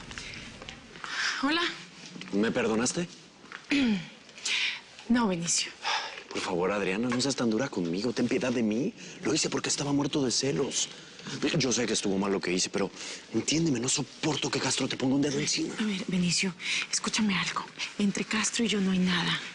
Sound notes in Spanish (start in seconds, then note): 4.6 Carraspea